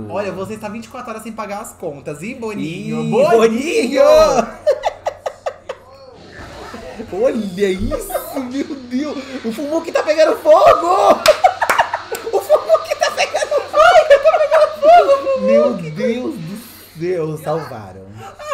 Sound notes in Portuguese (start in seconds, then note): 4.2 risada; 6.2 explosão; 9.9 gargalha